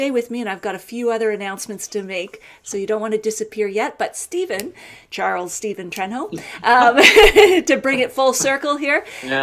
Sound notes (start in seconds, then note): 6.6 laughing